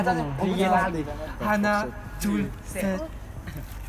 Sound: counting in "Korean"

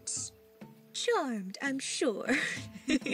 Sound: in posh voice; laughs

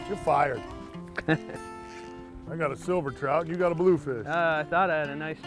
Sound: laughter

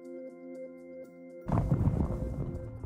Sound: volcano Rumbling

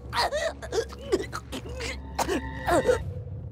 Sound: gasps

